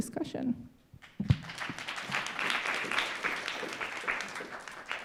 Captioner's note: audience applauding